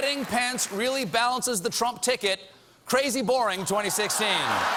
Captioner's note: applause